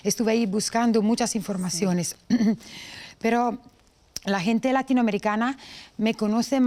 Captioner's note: clears throat